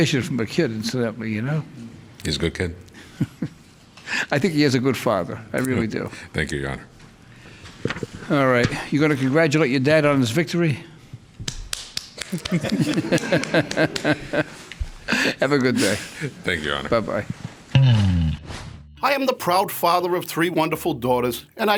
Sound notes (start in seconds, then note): 3.8 laughs; 11.4 hands clapping; 12.2 laughs